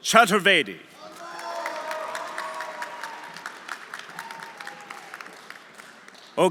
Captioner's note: audience cheering; audience applauding